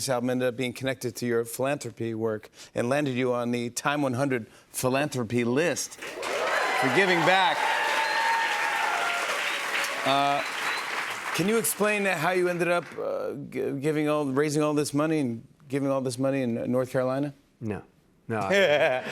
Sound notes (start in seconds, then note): 7.5 cheers and applause; 18.2 laughs